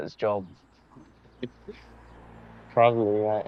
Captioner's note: Ayman chuckles